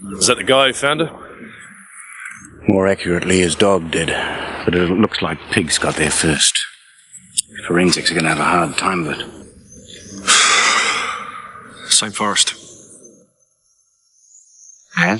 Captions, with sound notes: Is that the guy who found her? - More accurately, his dog did. But it looks like pigs got there first. Forensics are gonna have a hard time with it. (Dave sighs) - Same forest. - As?